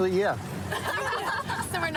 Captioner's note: laughter